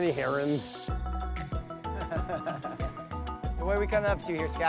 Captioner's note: upbeat music; laughs